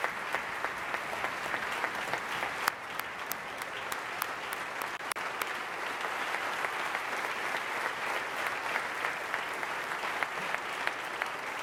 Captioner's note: applause